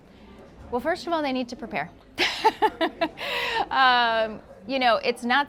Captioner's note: laughing